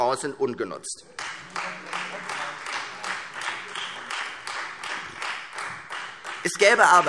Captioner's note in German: Beifall Freie Demokraten